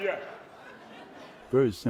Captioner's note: laughter